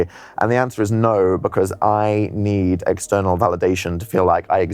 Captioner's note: none